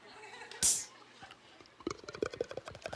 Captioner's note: laughing; imitating can opening; imitating liquid pouring